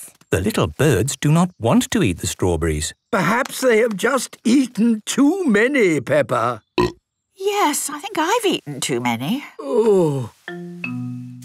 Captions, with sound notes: - The little birds do not want to eat the strawberries. - Perhaps they have just eaten too many, Peppa. - (burp) - Yes, I think eaten too many. - Oooh...